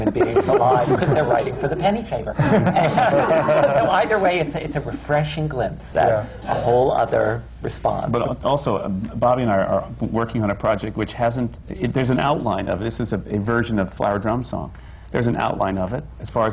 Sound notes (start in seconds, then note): 2.3 laughter